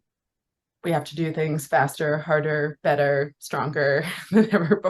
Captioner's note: laughing